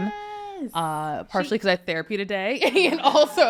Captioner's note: laughs